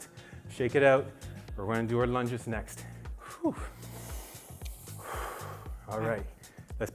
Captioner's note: deep breaths in unison